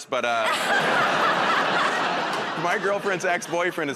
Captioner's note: laughter